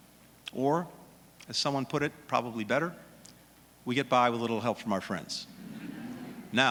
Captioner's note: laughter